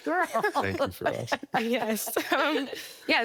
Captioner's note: laughing